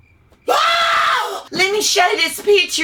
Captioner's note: screams